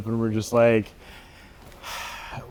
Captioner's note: sighing